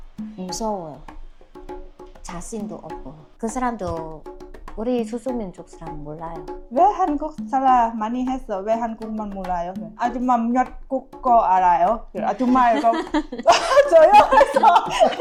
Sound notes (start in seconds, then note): 4.1 Vietnamese